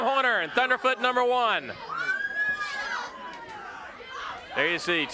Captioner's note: crowd cheering